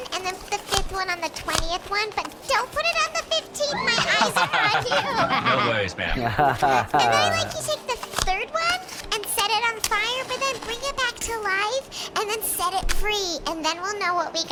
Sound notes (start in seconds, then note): 3.5 D-34_LR laughs; 7.1 laughs